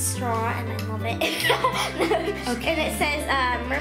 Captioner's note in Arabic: يضحك